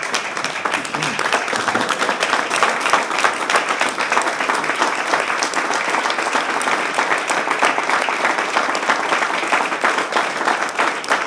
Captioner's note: applause